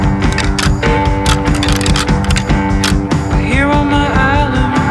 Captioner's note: antlers rattling